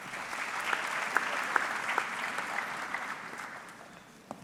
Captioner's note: audience clapping